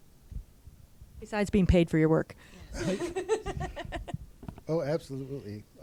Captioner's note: laughs